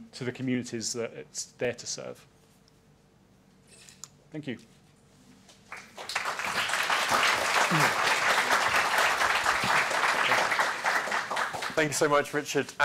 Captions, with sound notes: to the communities that it's there to serve? Thank you. [APPLAUSE] Thank you so much, Richard.